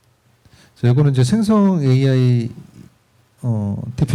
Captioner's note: speaking korean